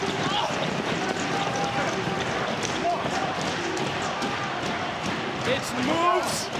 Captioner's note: audience cheering